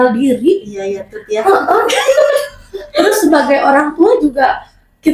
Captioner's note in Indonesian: tertawa